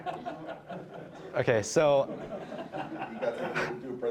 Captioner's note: all laughing